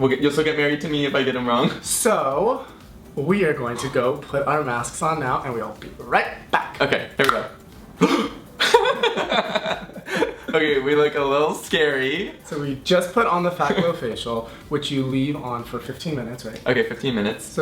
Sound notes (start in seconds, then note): 7.2 snapping; 7.8 both gasp; 8.0 laughing